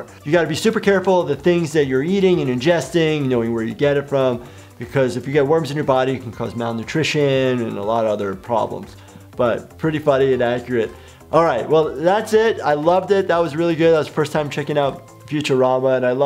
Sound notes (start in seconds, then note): none